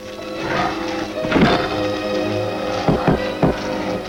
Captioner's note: Brutus growling